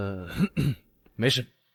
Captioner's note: cough cough